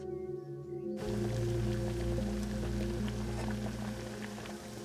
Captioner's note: water boiling